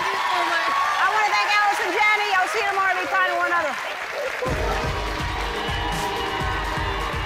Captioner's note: cheers and applause